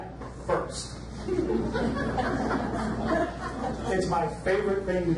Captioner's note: audience laughs